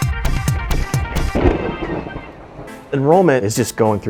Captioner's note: upbeat music; thunder crashes